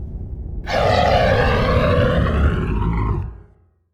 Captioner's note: roar!